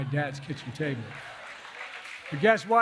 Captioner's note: applause